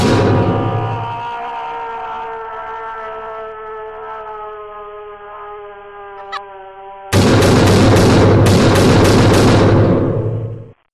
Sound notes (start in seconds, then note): 0.0 Goldren Freddy's scream; 0.2 Golden Freddy's scream muffled; 7.2 loud racket